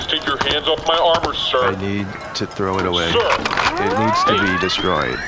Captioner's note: loads gun